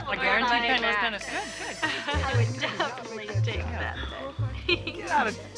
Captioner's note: chattering